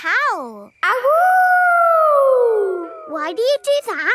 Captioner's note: howling